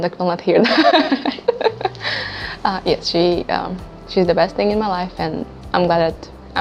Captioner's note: laugh